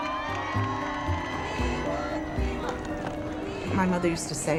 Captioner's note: people cheering; chanting